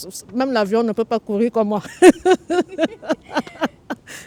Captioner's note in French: rire